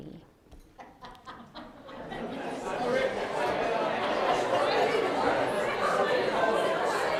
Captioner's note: audience laughs; audience chatters